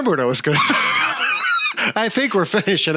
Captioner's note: laugh